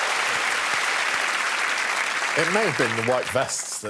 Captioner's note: cheers and applause